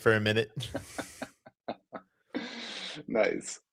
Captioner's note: laughter